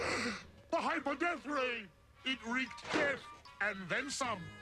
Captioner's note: gasps